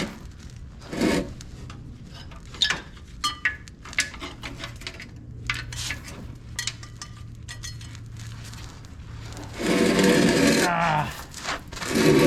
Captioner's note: snapping